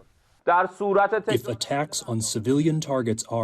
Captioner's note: through translator